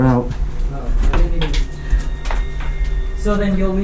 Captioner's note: rocks clatter